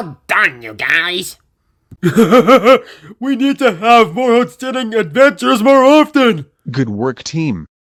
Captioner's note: laughing